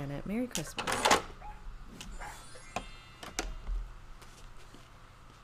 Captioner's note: Super Piggy barking